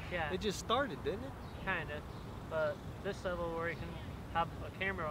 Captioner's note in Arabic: يتمتم